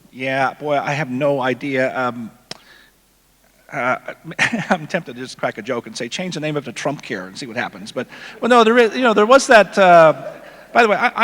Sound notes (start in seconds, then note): 4.2 laughs; 8.6 audience laughing